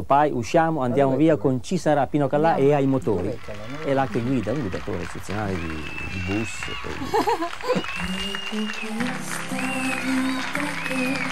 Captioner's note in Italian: Applauso